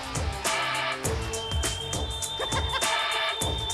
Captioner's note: laugh